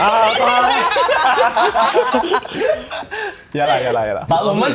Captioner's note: laughs